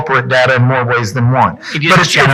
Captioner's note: speaks faintly